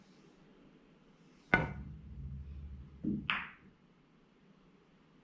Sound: pool balls tapping

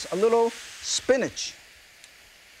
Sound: mushrooms sizzling

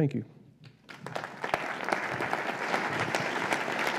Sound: applause

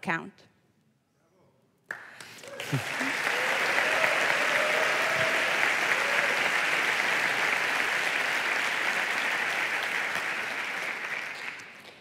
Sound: applause

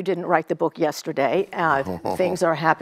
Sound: Nelson chuckling

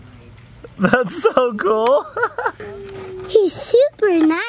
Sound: laughing

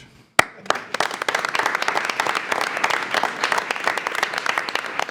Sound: trustees applauding

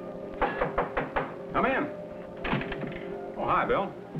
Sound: knocking at door

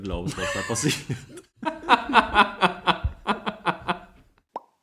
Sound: laughs

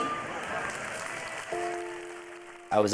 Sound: crowd clapping

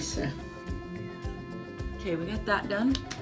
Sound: slapping

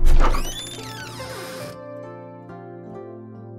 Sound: creak

